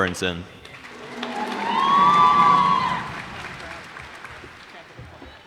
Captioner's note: cheers and applause